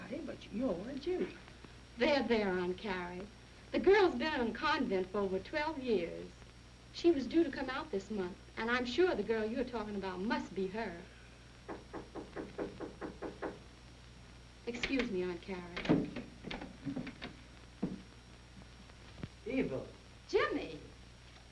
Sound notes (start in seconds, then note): 10.0 knocking